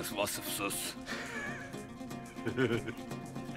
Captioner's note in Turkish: Gülme sesleri